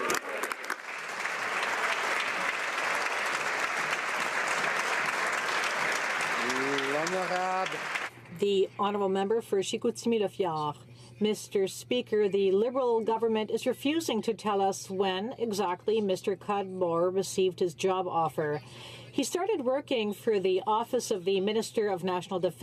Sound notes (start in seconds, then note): 8.7 some Applause